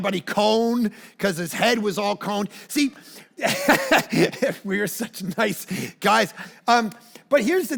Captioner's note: laughs